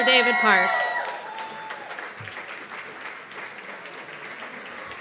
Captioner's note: cheers and applause